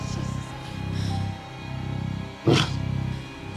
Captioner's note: growls